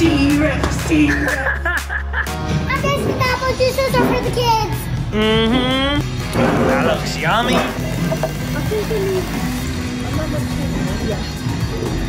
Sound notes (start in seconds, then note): 1.2 laughs; 8.5 pop music